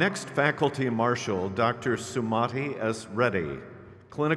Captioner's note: crowd cheers